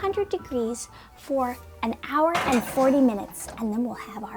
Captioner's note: tray clanking